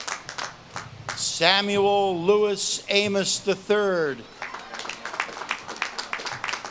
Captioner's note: audience claps and cheers